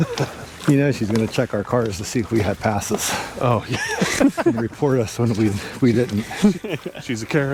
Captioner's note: laughter